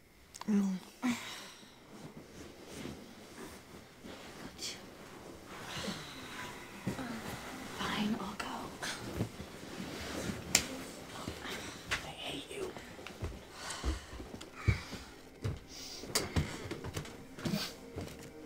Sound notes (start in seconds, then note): 1.0 sighing; 10.2 slapping; 13.5 sighing